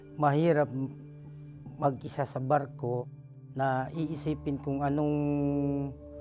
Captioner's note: speaking foreign language